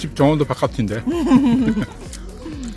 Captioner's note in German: lacht